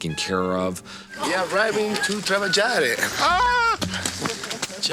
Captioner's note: speaking Italian